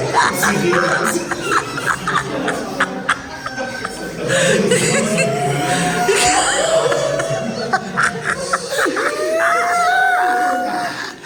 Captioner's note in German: gelächter